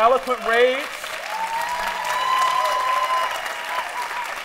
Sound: applause

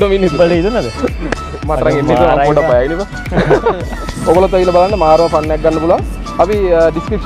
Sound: laughing

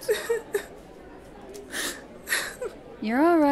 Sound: Gabriela cries

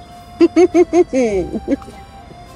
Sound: giggles

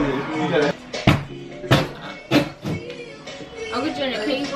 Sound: hammering

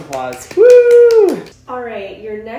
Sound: clapping and cheering

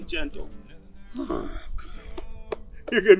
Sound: Gor sighs in frustration

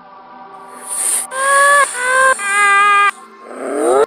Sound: screaming

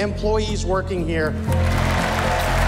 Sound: cheers and applause

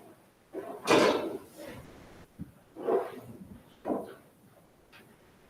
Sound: metal bangs softly

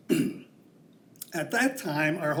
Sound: clears throat

